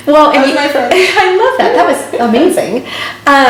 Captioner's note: laughs